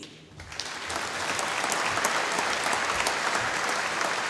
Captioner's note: applause